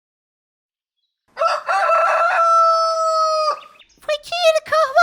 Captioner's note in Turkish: Tavuk sesi